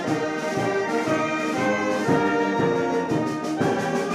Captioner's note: none